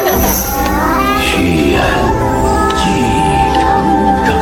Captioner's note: voices of chanting scholars